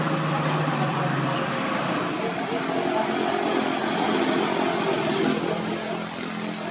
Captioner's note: rumble